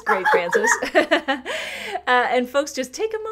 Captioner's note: laughter